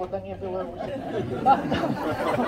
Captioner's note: laughter